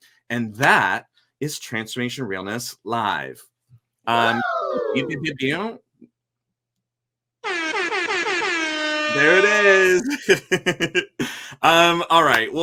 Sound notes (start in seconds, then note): 5.2 imitating siren; 7.4 siren wailing; 9.1 laughs